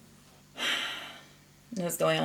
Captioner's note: sighs deeply